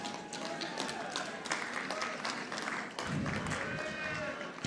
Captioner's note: audience applauding